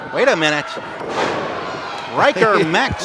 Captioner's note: groans